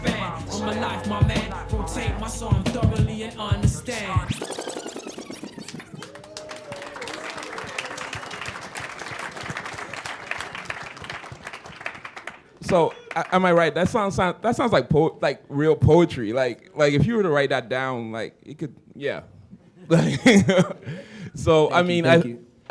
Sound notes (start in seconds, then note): 19.4 chuckle